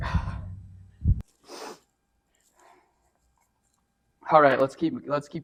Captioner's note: sniffs